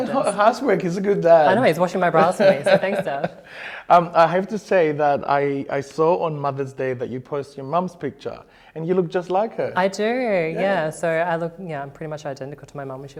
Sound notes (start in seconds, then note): 1.2 laughing